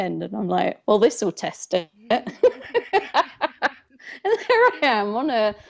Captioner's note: laughs